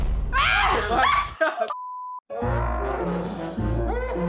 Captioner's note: laughs